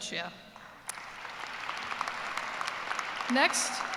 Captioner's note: applause